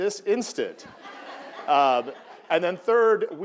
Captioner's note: audience laughing